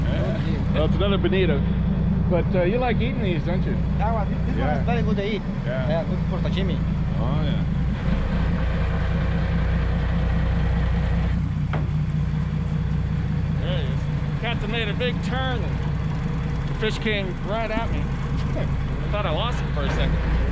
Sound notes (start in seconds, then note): 1.1 chuckling; 5.6 speaking in spanish; 8.1 boat engine idling